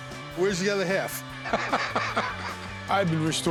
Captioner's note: laughs